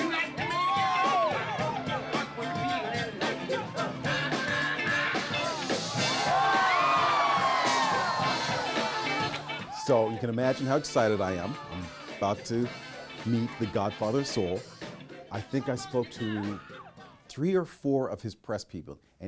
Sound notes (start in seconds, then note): 6.4 crowd cheering